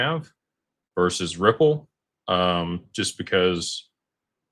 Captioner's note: none